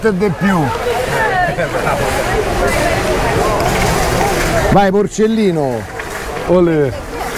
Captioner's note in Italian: Applauso